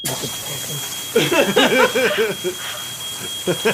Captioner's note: alarm goes off, sprinklers activate